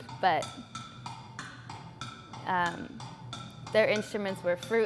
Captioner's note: rhythmic ticking